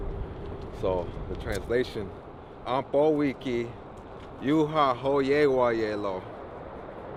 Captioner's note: speaks in Indigenous language